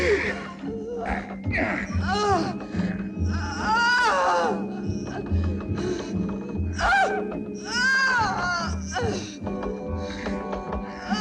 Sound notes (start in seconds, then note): 4.5 yelling